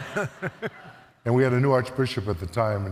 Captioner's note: audience laughs